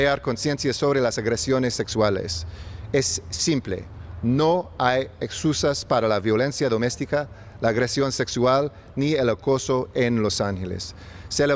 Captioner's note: remarks in spanish; speaking spanish